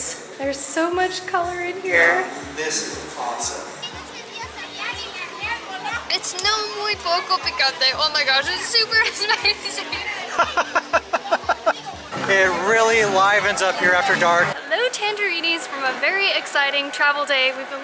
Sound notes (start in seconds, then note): 6.2 speaking Spanish; 8.6 laughing